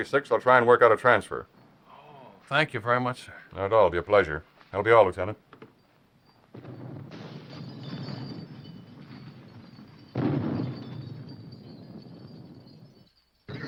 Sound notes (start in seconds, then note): 7.9 chandelier clanking